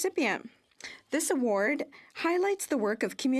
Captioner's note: speaking French